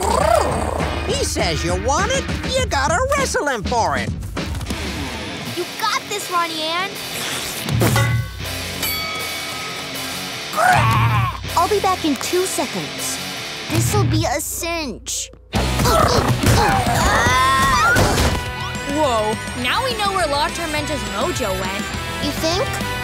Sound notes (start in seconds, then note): 10.0 squawking; 16.4 screaming